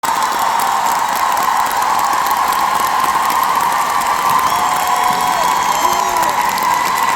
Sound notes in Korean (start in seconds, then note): 0.0 박수